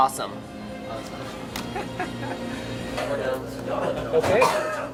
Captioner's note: laughing